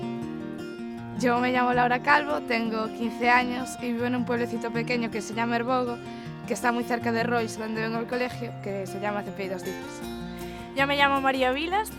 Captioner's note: speaking in Spanish